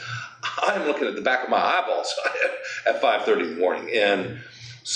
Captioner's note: chuckles